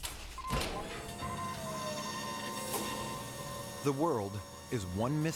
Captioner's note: electronic buzzing